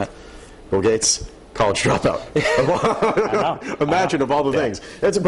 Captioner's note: laughter